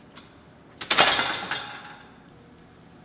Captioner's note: metal door slams